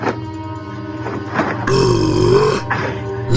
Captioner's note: growl